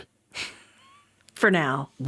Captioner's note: chuckling